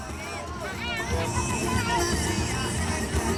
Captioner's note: people cheering